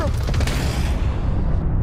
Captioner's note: gunshot